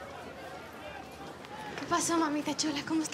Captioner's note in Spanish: bullicio en el lugar